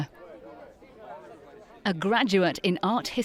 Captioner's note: people chattering